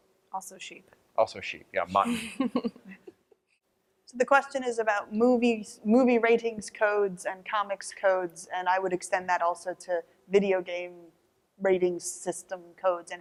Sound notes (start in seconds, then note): 2.0 laughter